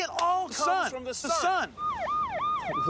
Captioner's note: police siren wailing